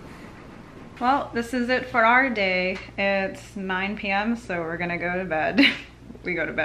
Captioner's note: laughing